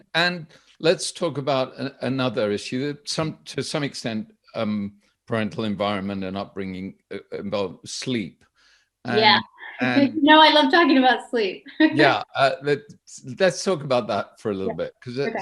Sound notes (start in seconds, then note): 11.8 chuckles